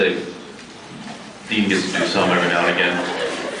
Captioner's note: scattered laughs